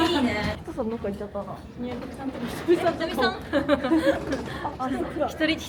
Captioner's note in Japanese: 笑い